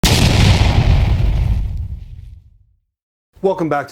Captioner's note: explosion sound